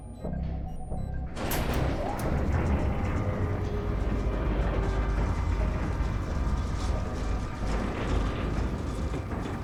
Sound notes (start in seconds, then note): 1.4 metal door clanks; 4.8 door whirring